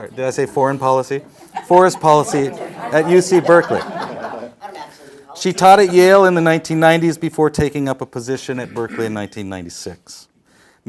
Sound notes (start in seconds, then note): 3.5 panelists laughing